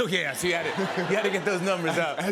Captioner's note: laughter